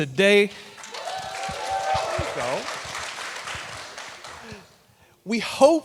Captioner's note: audience cheering, clapping